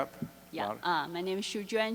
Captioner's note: voiceover